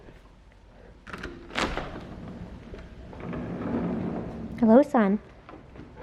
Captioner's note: door unlocking